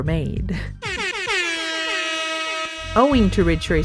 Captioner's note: airhorn sounds